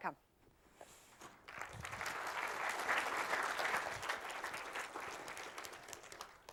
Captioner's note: applause